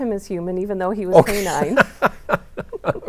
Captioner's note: laughs